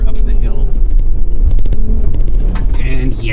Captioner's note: engine whirring